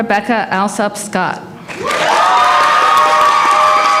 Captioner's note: applause